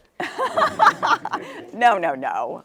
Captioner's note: laughter